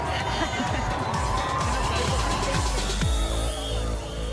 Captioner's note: crowd cheers